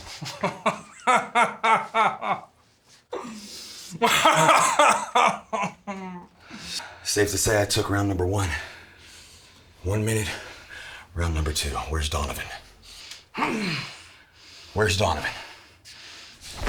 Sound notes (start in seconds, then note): 0.1 Nazi laughing; 13.4 Nazi grunting